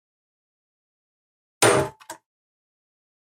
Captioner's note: snap